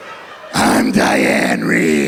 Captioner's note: ancient voice